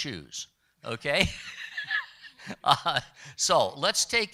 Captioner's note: chuckle